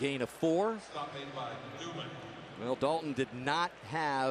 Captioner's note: pa announcement